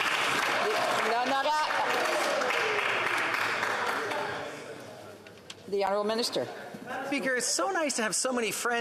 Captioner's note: applause